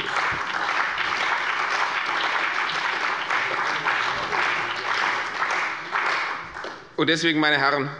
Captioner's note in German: Beifall bei der CDU und dem BÜNDNIS 90/DIE GRÜNEN